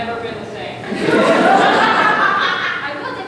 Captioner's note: audience laughter